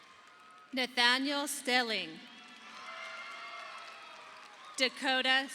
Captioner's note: audience applauding